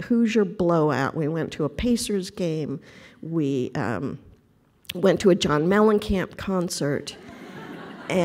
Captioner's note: laughter